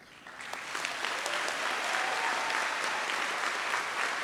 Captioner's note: audience applauds